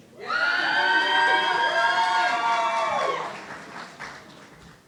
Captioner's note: audience cheering